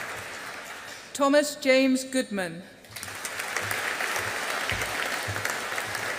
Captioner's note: audience applauding